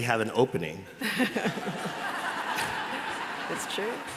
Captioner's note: laughter